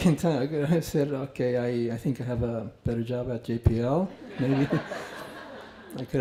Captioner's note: laughter